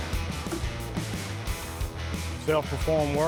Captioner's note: wood thudding; upbeat rock music